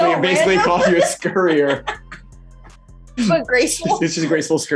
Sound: laughing

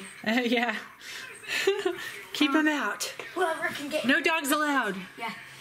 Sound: laughs

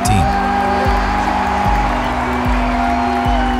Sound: crowd cheers

